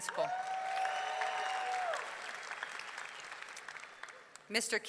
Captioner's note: audience clapping; audience cheering